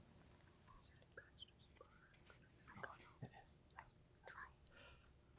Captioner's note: team whispering